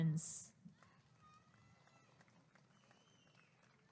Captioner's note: applause and cheering